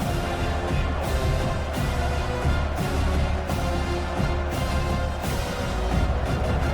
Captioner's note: crowd Noises